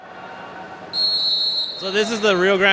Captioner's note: whistle tweets